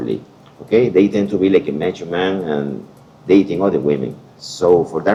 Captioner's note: Latin